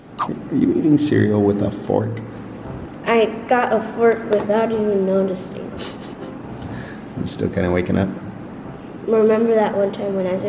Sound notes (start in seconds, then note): 5.9 laughs